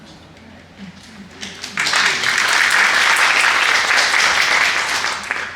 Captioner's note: applause